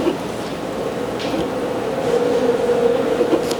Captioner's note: bees buzzing